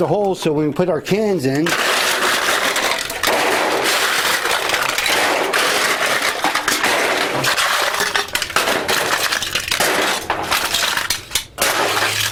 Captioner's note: the sound of cans being loaded into the machine